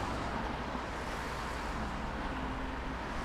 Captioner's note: cars whiz